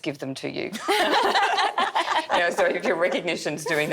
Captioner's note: laughing